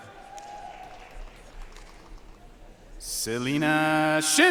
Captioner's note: audience cheering and applauding